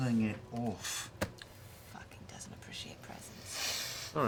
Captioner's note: quietly